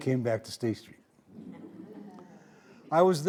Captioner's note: audience laughing